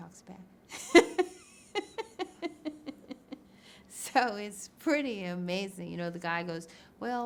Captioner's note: laughs